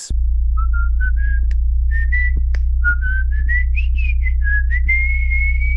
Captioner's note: whistling